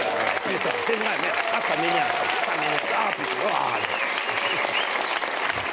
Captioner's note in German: flucht auf Französisch